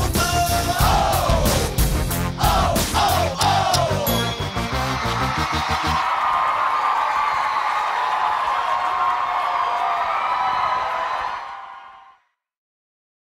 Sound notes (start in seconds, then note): 4.2 wild cheering